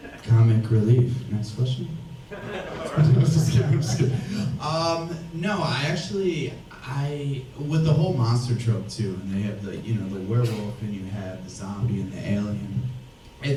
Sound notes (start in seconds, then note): 2.3 audience laughs